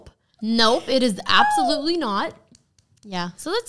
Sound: slapping forehead

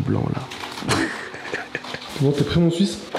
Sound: laugh

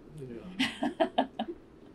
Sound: laughs

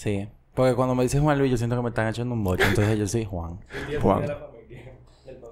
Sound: laughs

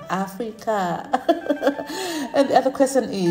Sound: chuckles

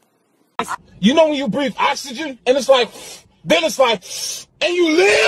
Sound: exhale; inhale

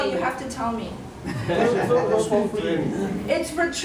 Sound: students laugh

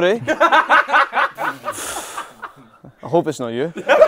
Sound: people laughing

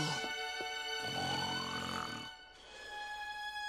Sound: snoring

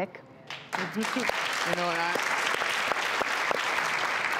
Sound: audience applauds

